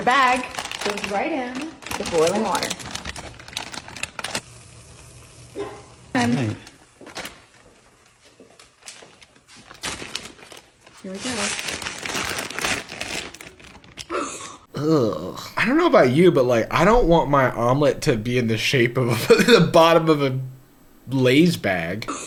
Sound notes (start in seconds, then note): 3.5 bag crinkles; 14.7 gags